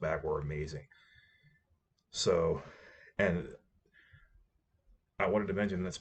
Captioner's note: awkward pause